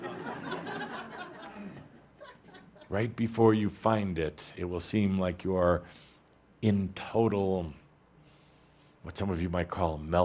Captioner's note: laughter